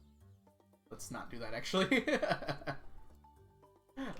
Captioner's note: laughs